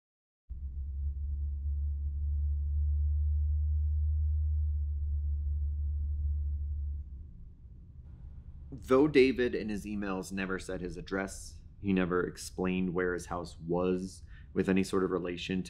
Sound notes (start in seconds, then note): 2.1 engine humming